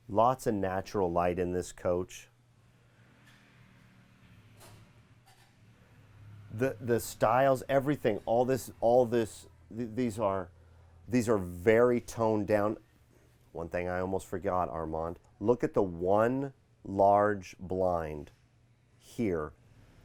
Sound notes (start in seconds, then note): 3.5 rv squeaking